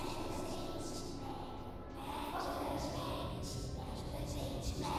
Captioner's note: ghostly whispering